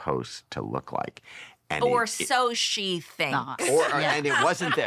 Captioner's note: laughter